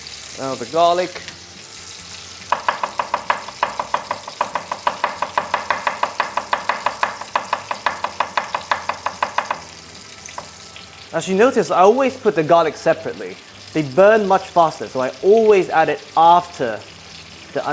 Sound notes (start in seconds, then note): 10.0 chopping